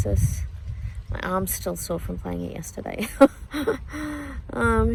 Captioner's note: scoffs